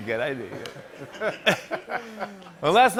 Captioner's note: laughter